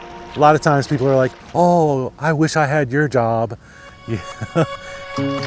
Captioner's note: laughs